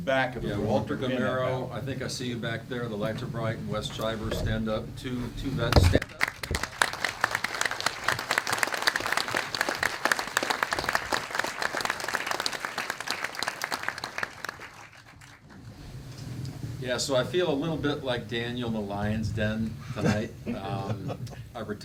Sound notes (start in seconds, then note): 6.4 applause; 19.8 chuckling